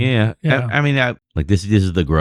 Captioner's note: uh